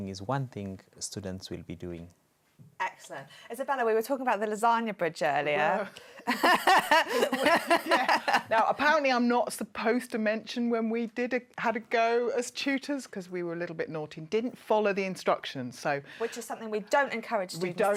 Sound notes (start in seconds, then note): 6.2 laughter